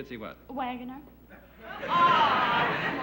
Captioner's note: laughter